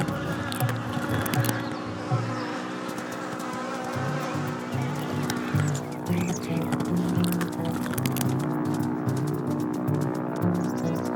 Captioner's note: sounds Of The Wild